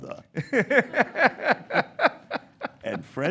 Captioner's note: laughs